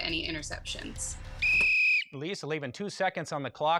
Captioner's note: whistle blows